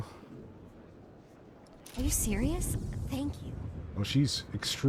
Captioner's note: none